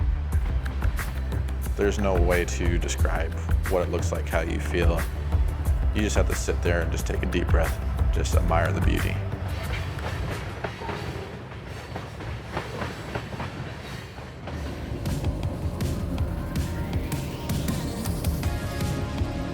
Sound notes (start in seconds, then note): 0.4 upbeat music; 14.3 train rumbling; 19.0 upbeat music